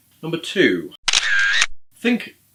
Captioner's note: camera shutter